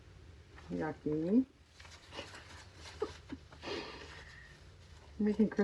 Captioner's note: laughs